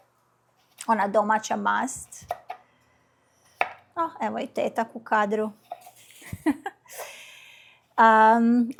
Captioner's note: laughter